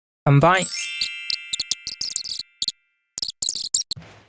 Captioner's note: fast-forward